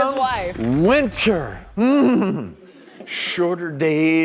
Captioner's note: shivers; audience laughs